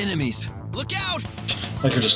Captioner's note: laughs softly